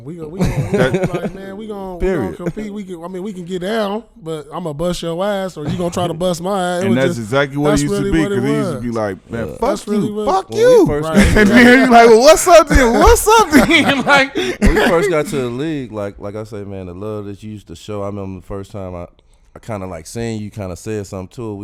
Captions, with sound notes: We were goin' like man we gon' compete. I mean we can get down, but I'ma bust yo ass or you gon' try to bust my ass. - And that's exactly what it used to be. - That's really what it was. - 'Cause it used to be like man, fuck you, fuck you. (laughing) And then, like well what's up then, well, what's up then? (laughing) And like. - When we first got to the league, like I said, man, the love that you used to show. I remember the first time I kind of like seen you, you kind of said somethin' too.